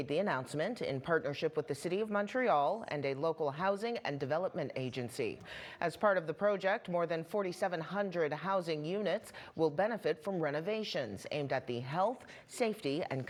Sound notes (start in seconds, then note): none